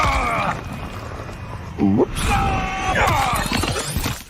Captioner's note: Omni-Man grunting; Omni-Man screaming; blade whipping